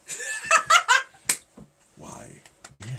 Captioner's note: laughing